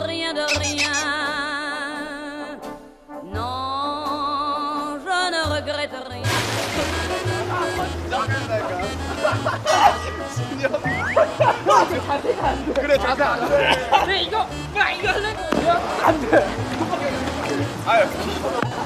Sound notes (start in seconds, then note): 11.0 hahaha